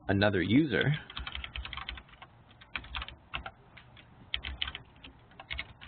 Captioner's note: keyboard clicking